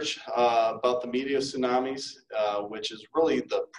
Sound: none

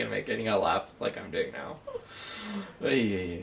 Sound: laughs

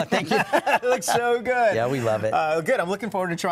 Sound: laughter

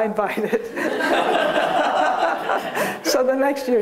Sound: laughter

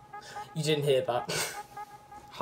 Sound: laugh

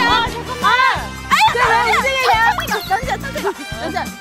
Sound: hurriedly

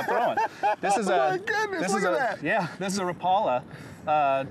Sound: laugh

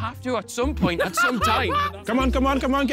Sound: Ethan laughing

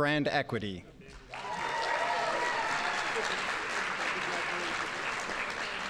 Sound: audience applauding

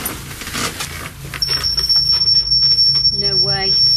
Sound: beeping

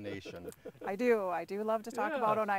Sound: laughing

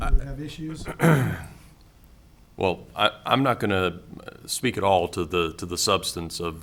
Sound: clears throat

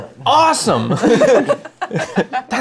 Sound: laughter

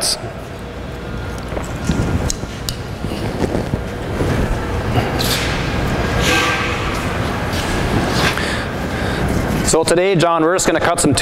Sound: sound of machines running in the background

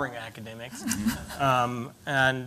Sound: laughter

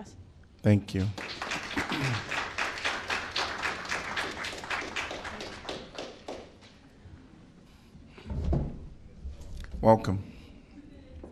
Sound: applause

